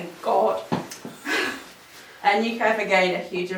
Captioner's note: laughs